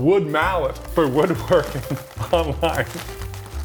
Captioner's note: chuckling; slow jazz music